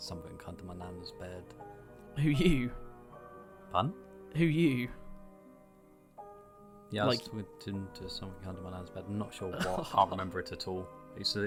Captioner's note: laughs; also laughs